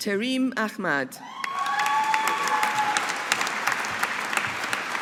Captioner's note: audience applauding